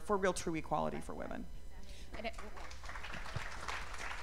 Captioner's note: applause